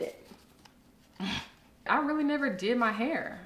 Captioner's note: laughs